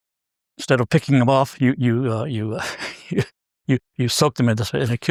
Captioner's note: laugh